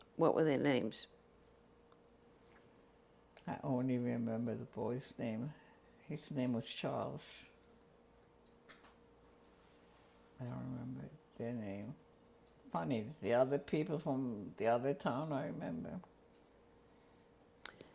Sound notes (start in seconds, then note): 7.1 pauses for 3 seconds